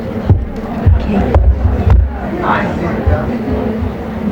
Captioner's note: people mumbling